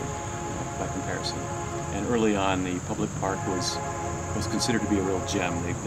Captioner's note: background: train horn